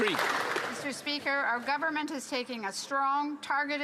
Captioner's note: some Applause